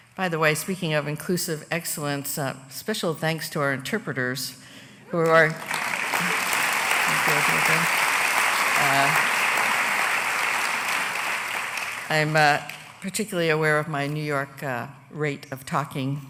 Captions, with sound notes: BY THE WAY, SPEAKING OF INCLUSIVE EXCELLENCE, SPECIAL THANKS TO OUR INTERPRETERS WHO ARE. [ APPLAUSE ] I'M PARTICULARLY AWARE OF MY NEW YORK RATE OF TALKING